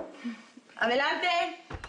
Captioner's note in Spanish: Toques en la puerta